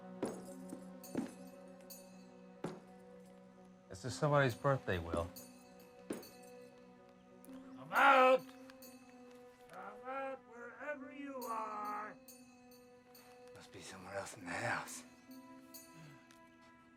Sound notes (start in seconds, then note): 9.9 sing-song